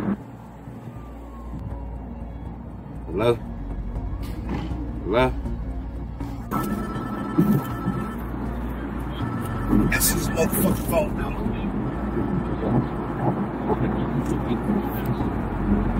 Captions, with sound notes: [tense music] Hello? Hello? [phone ringing] Answer this motherfuckin' phone now. [phone ringing] [car noise]